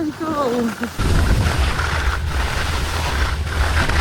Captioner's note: skis scrape